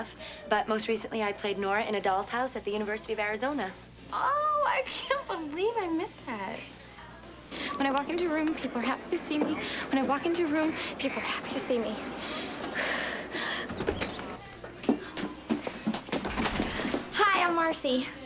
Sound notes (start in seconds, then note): 3.8 sarcastically; 12.2 sighs